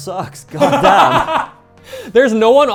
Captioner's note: laughing